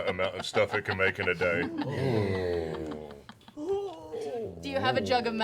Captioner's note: disconcerted oohs